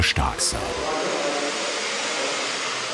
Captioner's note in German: Lautes Surren